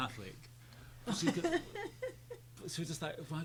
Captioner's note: laughing